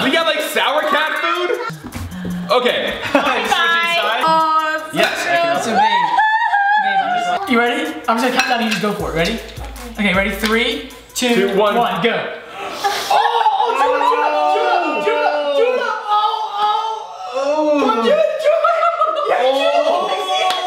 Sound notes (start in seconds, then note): 5.6 fake cries; 15.2 groan; 16.7 laughs